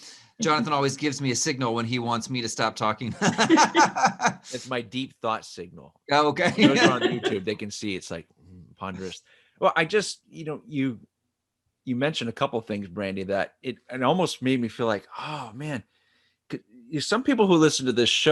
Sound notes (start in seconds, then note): 3.0 laughs